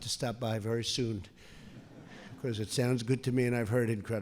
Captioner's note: laughter